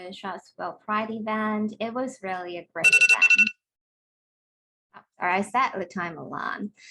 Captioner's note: timer goes off